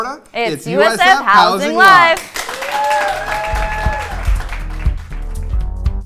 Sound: cheers and applause

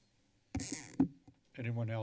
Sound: mic crackling

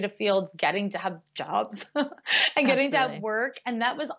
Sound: laughs

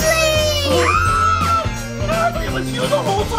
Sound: everyone screams

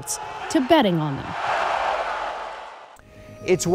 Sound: audience cheers

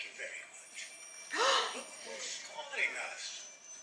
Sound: gasps

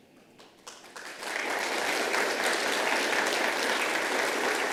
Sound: all applauding

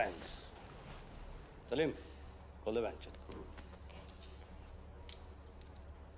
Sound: speaking foreign language

